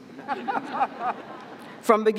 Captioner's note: audience chuckling